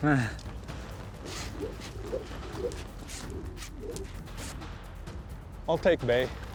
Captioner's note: rope swirling, whooshing